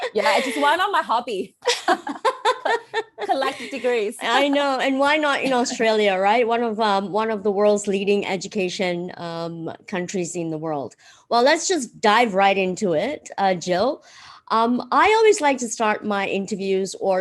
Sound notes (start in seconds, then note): 1.7 laughs